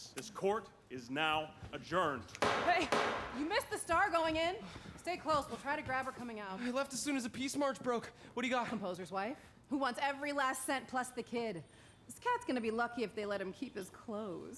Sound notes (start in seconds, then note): 2.4 gavel banging